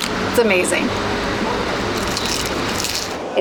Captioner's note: crunching sounds